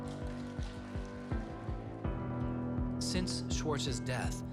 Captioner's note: applause